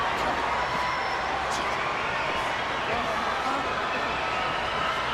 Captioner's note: audience chattering